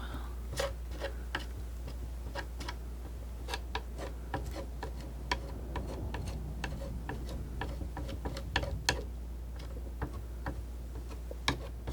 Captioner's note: scratching